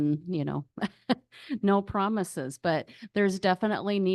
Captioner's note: chuckles